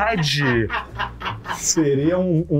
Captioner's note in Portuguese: risadas